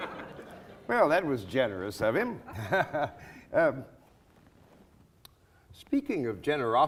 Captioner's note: laughing; chuckles